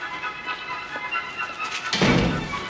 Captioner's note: door slams shut